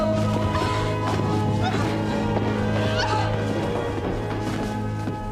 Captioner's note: terengah